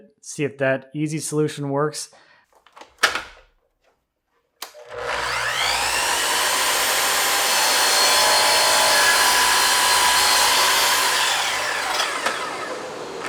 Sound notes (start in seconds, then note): 2.9 saw clicks; 5.8 saw whirring